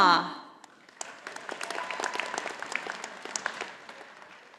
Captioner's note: audience applauding